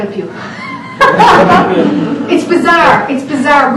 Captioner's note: laughing